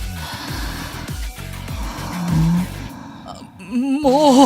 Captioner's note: eep